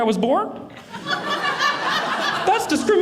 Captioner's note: audience laughing